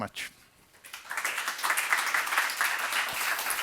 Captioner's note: applause